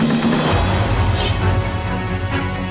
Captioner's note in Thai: เสียงกระบี่